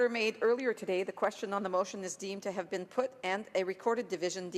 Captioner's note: speaking French